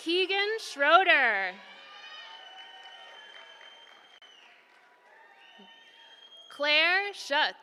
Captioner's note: applause